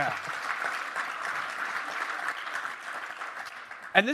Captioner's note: applause